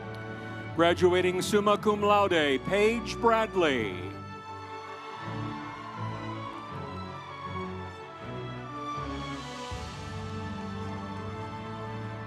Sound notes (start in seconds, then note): 4.5 audience cheering; 5.3 instrumental music